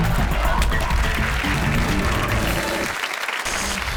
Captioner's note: audience applauds